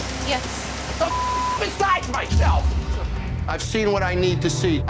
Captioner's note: beep